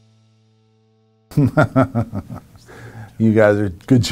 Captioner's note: laughter